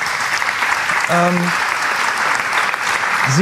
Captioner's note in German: Applaus